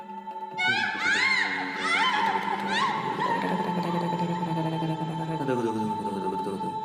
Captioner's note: screaming; upbeat music